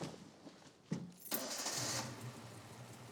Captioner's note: engine starts